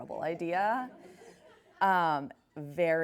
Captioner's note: laughs